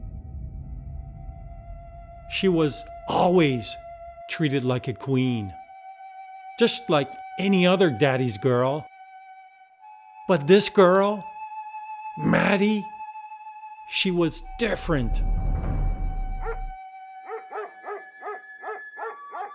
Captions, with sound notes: She was always treated like a queen just like any other Daddy's girl. But this girl, Maddie, she was different (tense drumming music) (dog barking)